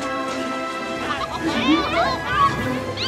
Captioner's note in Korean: 웅성웅성웅성웅성